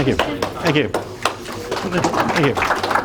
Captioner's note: clapping